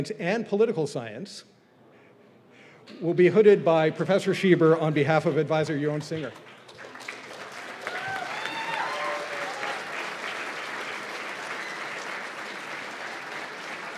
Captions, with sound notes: and political science, will be hooded by Professor Shieber on behalf of Advisor Yaron Singer. [CHEERS AND APPLAUSE]